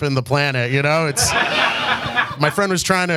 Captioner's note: audience laughs